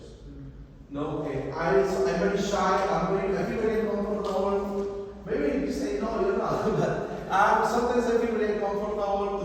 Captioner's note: laughs